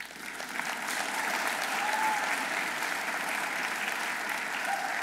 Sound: audience applauding

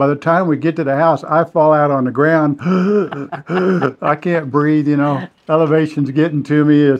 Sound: gasping

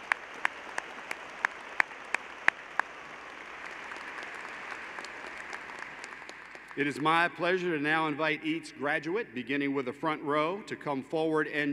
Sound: applause

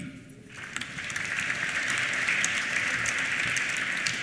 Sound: applause

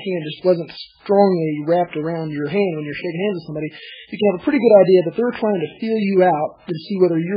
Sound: laughs

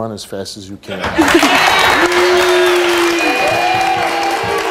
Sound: audience applauding

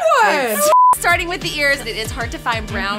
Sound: beeps

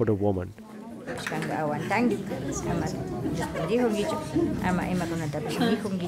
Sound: speaking in foreign language

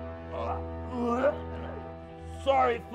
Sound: Will retching

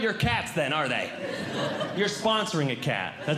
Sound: audience Laughing

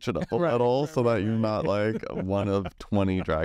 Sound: laughs

